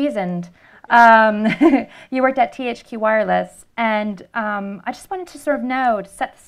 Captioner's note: laughter